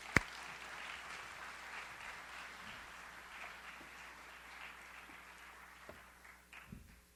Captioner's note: audience applauds